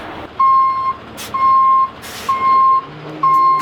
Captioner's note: truck beeps